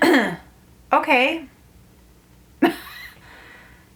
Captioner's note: clears throat